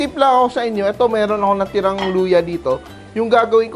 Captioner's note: sizzle